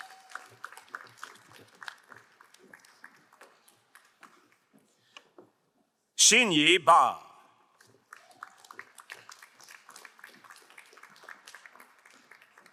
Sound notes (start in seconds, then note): 0.0 crowd applauding; 8.1 crowd applauding